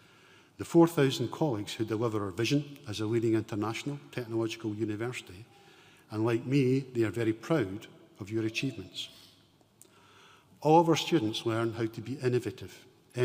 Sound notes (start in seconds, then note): none